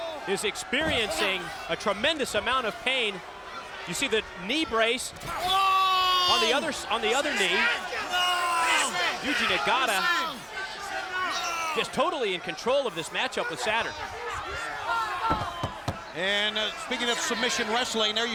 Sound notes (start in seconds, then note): 8.4 Saturn yelling